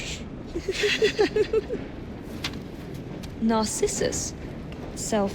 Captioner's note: giggles